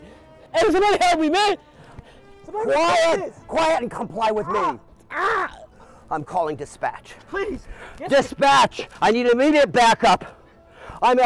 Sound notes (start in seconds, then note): 4.2 Daryl screaming